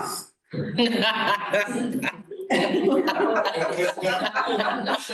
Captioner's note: laughter